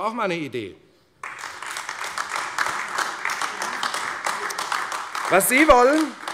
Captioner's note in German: Beifall AfD